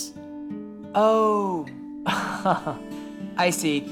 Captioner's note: laughs